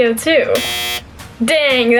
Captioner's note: buzzer